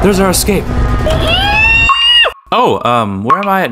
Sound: screaming like a good for nothing rat

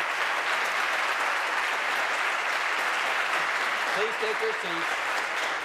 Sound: applause

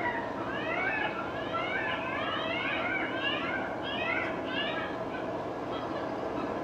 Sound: animal screeching

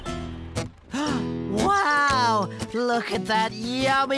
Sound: gasps

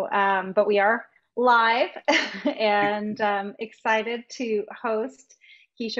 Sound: laughing

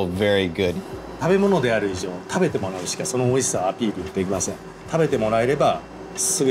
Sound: speaking in Japanese

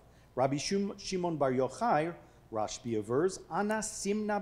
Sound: speaking foreign language

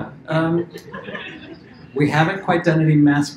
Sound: laughter

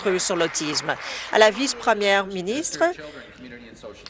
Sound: applause

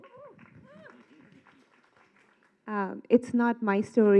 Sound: clapping

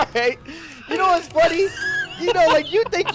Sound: laughing

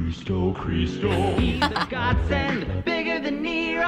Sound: laughs

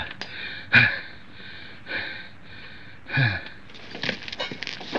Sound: deep breaths

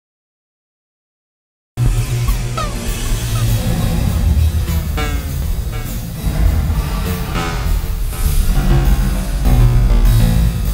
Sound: sound of engaging the enemy

